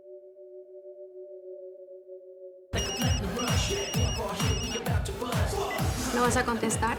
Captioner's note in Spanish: Suena el celular